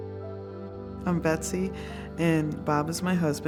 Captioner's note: none